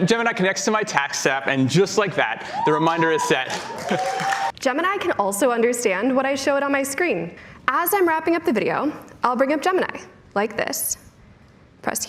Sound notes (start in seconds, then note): 2.4 audience cheering